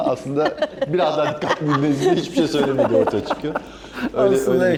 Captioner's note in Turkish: kahkaha